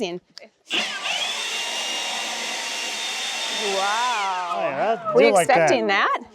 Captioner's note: blower whooshes